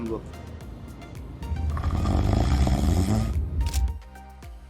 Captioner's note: snoring